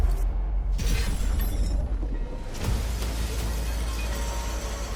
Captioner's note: glass shattering